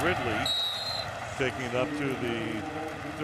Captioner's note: whistle blows